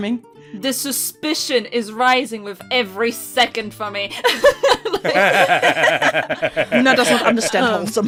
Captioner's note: laughter